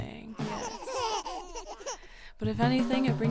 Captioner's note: baby giggling